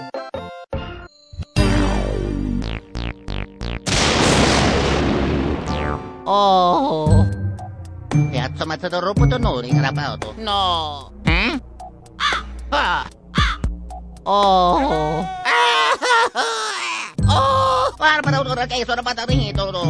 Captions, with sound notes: no OOOOOOOOOOOOOOOHHHHHHHHHHHHHHHHHHHHHHHHHHHHHHHHHHHH. Yery scary. Ooohhhhh... U don't see this. (Italian gibberish) Noooo... Dat's the trail, Heh? *caw* Hah! Dos ar birds, *caw* Ohhh... -Hello!!! AHHH HAHHH HUAGHHH and dat is ronald MakDanolds Mo' Italian gibberish